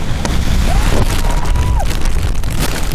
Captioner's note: wind gust; screeching; wind gust